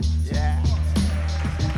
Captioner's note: cheers and applause